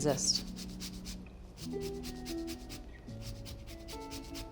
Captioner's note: lemon scrapes; bright upbeat music continues